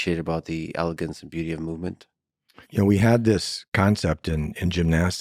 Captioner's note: none